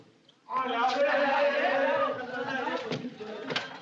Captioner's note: men Chattering